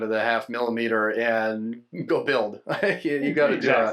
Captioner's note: laughing